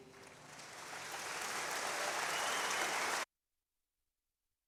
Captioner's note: audience applauds